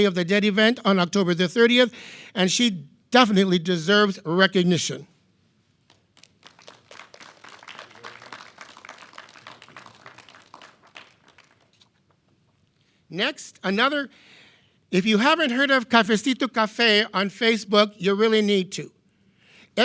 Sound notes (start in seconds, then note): 5.8 clapping; 16.1 speaking in foreign language